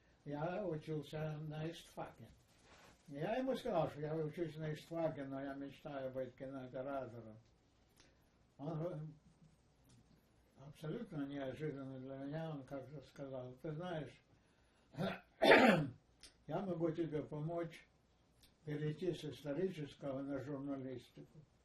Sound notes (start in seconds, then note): 14.9 coughing